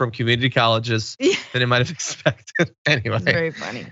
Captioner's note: laugh